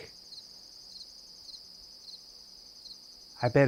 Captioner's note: crickets